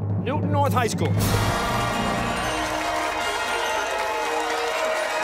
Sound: cheers and applause

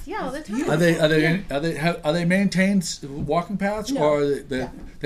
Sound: voiceover

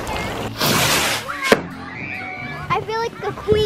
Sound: kids screaming

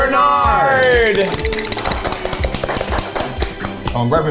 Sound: crew applauding

